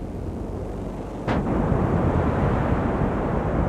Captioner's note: huge explosion